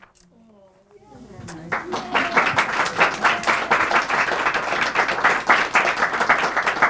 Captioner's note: applause